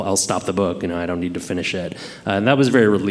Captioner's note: none